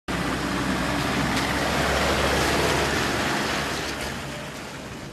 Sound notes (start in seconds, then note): 0.1 engine purring